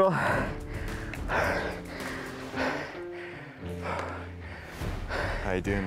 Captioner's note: breathing heavily